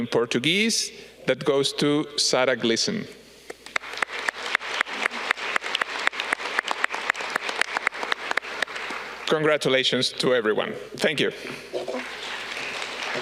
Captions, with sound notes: in Portuguese that goes to Sara. (audience clapping) Congratulations to everyone, thank you.